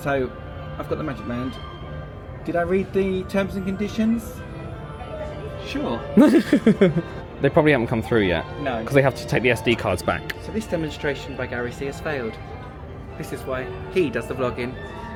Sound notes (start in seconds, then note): 6.2 laughing